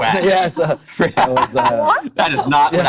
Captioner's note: laughing